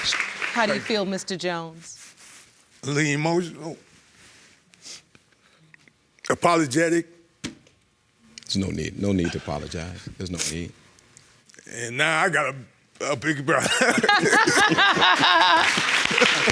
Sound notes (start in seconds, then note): 2.6 voice breaking; 13.6 laughing